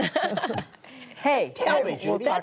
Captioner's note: laughter